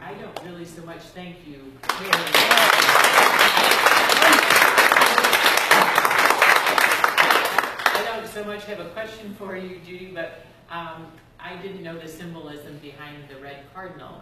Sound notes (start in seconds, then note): 1.8 applause